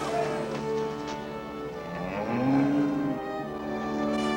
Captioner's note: cow moos